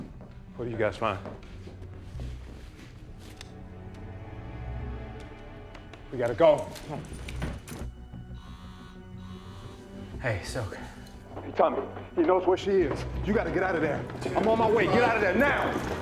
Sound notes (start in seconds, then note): 8.3 phone vibrates